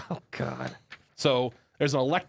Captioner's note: laughs